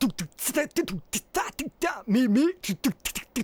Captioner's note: beatboxing